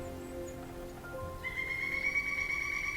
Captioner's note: bird calling